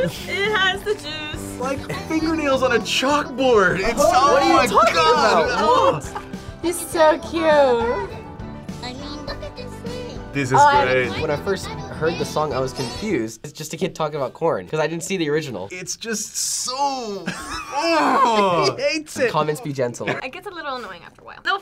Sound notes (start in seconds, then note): 17.2 laughs